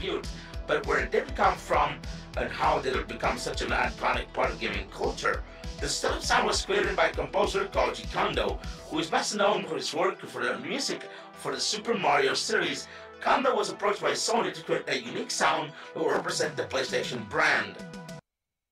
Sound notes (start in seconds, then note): 5.0 ChatGPT voice